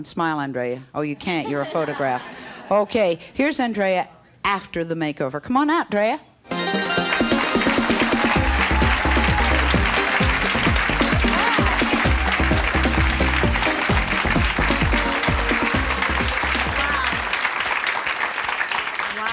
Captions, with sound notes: smile Andrea, oh you can't you're a photograph. (audience laughs) Okay here's Andrea after the makeover. Come on out 'Drea. (engaging music) (crowds yells and applauds)